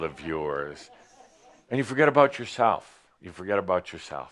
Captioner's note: a few chuckles